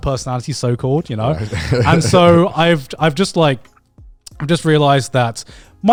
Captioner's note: laughs